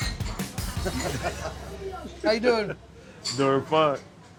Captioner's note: chuckling